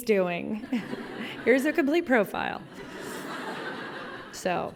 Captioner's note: laughter